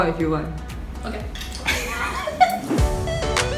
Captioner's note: laughs